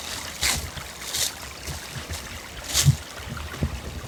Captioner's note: leaves crunching